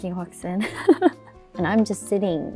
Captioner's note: chuckles